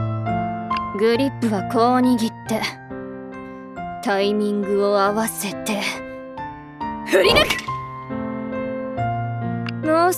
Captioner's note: clank